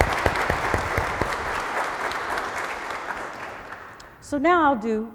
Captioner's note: applause